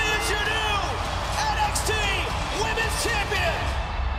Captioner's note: bell ringing